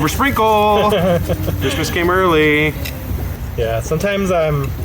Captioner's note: laughing